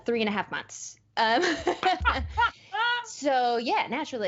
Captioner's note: laughing